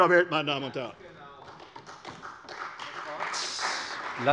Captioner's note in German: Beifall bei der CDU